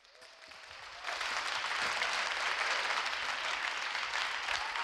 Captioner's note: audience cheering